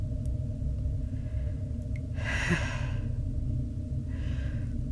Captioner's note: sigh